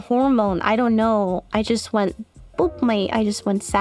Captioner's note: boop